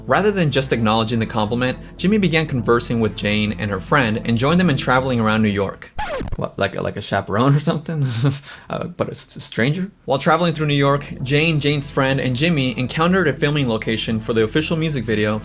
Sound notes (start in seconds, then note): 8.0 chuckles